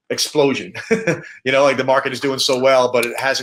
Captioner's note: laughs